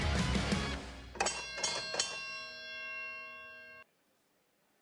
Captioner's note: bell ringing